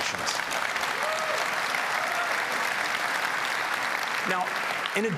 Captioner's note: applause